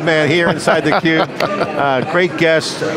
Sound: laughing

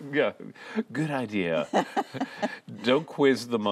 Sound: laughter

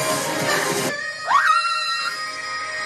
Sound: shrieks

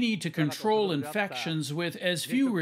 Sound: speaking Foreign Language

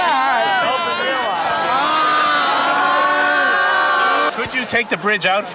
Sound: crowd commotion

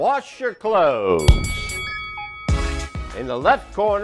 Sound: bell dinging

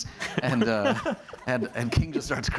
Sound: laughing

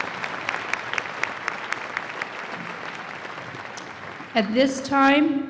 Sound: applause

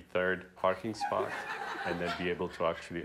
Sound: laughter

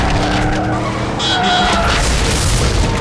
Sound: car horn honking

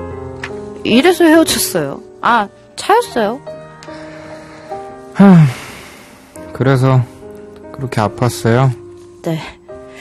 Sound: sighs

